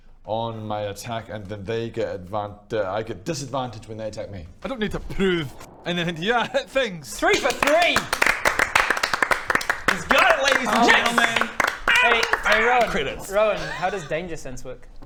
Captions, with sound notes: on my attack and then they get adv- I get disadvantage when they attack me I don't need to prove anything to you, I hit things *applause* Three for three! He's got it ladies and gentlemen! I'm on fire!! Credits Rowan, how does danger sense work?